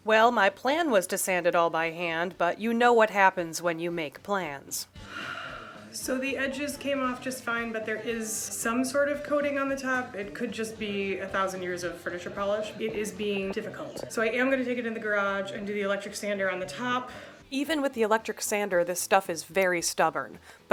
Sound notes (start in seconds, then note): 5.0 sigh